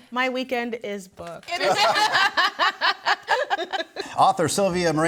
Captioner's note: group laughs